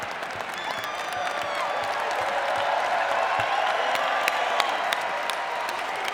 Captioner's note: audience cheering and clapping